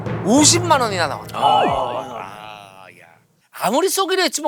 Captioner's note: groaning